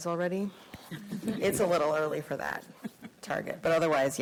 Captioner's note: board members chuckle